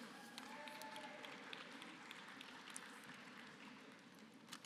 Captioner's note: applause